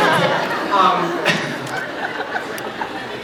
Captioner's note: laughs